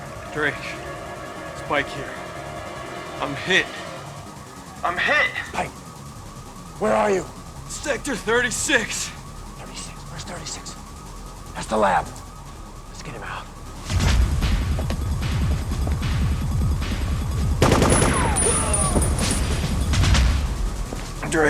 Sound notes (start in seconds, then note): 15.3 siren blaring; 17.7 machine gun firing